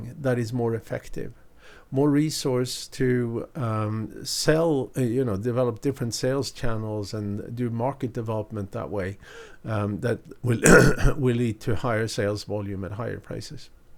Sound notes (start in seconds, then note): 10.6 clears throat